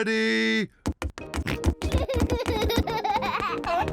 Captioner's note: oinks; oinks and giggles